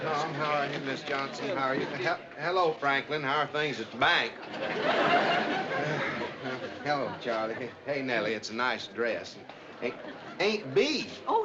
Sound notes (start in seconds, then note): 0.0 audience laughs; 4.3 audience laughs